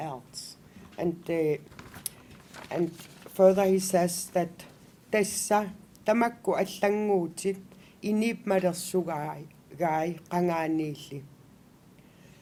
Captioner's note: non-english speech